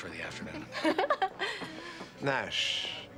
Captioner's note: Lisa laughing